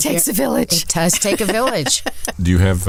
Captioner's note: laughs